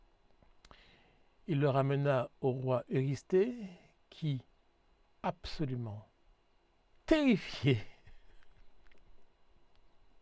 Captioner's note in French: rires